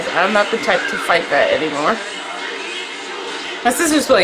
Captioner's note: none